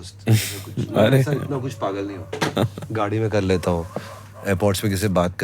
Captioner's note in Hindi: नाक से की जाने वाली आवाज़